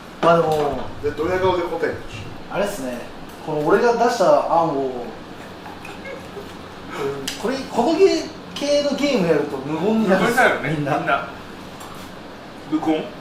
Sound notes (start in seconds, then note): 11.4 laughs